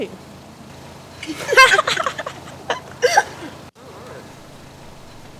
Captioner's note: girls laugh